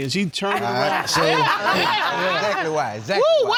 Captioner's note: audience laughing; chuckling